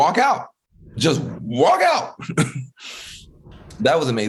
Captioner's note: laughing